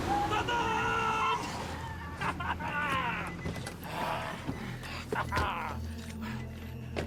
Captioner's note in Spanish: chirrido de llantas; risotada